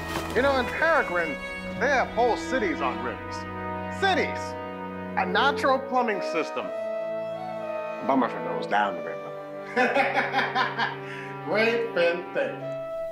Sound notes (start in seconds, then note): 9.6 laughs